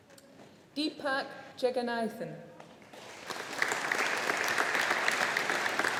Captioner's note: audience applauding